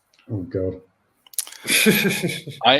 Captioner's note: laughs